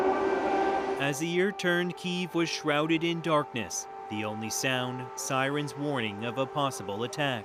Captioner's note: sirens